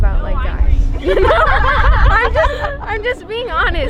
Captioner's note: all laughing